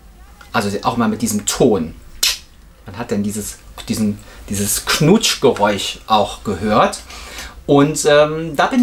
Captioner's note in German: Knutschgeräusche